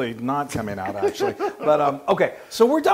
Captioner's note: laugh